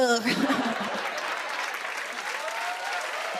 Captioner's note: laughter; applause